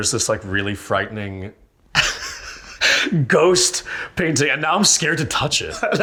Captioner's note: chuckles